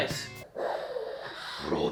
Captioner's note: heavy breathing